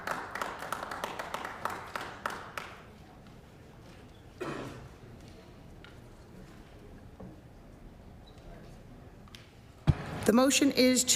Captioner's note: some Applause